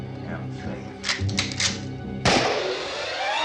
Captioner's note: gunshot